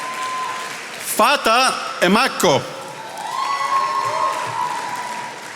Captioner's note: attendees applauding